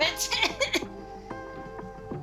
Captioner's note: laughing